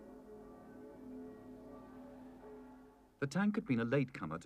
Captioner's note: bells ringing